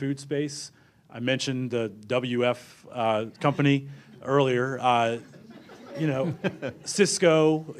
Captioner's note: laughter